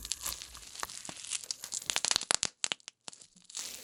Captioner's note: some more popping sounds